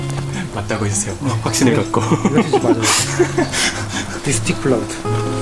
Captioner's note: laughs